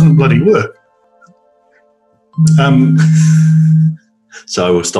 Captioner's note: cell phone rings